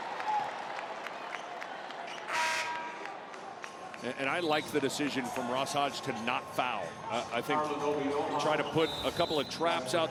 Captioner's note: whistle blowing